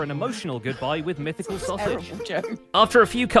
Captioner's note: others whisper-heckling